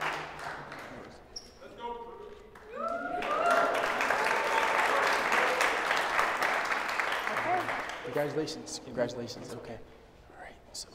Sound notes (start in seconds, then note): 2.5 applause